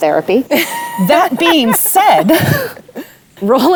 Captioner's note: giggles